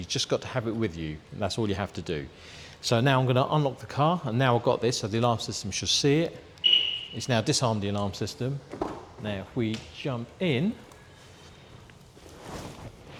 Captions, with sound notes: just got to have it with you and that's all you have to do so now I'm going to unlock the car and now I've got this so the alarm system should see it (beep) its now disarmed the alarm system now if we jump in...